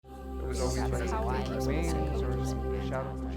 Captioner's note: people chatter